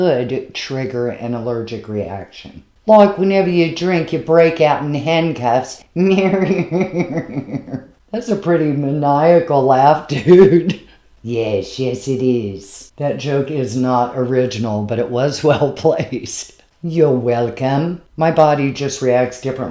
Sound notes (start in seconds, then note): 6.0 cat laughs